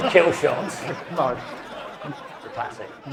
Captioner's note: audience laughing